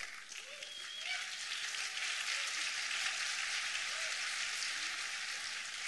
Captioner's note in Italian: applausi